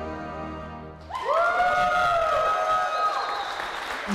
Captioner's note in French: applaudissements